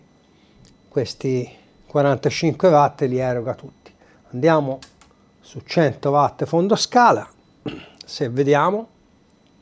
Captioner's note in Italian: schiarire la voce